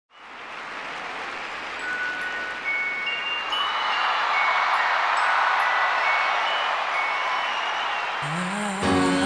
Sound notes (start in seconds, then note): 0.2 crowd cheering; 1.8 festive holiday music